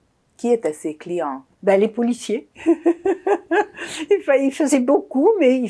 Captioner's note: laughing